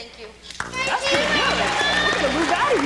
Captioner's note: applause